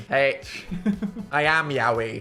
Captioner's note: laughs